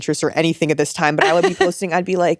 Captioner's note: laughing